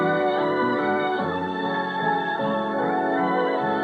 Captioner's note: laughing